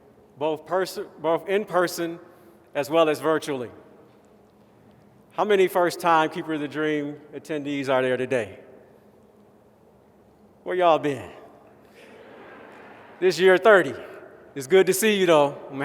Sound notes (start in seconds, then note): 12.0 laughter